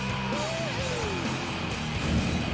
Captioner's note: cheering